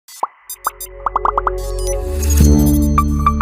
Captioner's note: logos popping; logo beeping